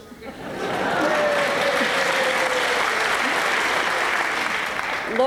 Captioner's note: applause